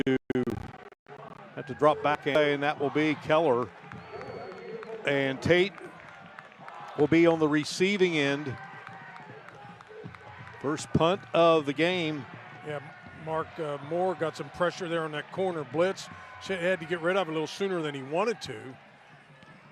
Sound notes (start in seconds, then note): 9.6 applause